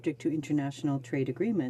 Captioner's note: speaking french